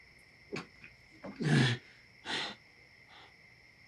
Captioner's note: breathing heavily